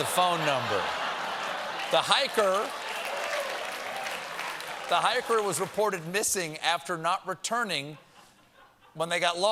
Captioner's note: laughter